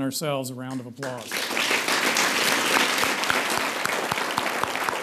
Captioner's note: audience applauds